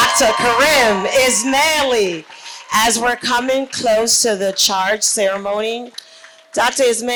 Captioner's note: cheers